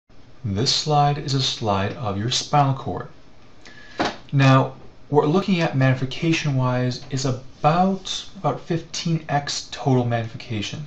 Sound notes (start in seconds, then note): 0.5 voiceover